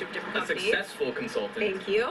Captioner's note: male Voice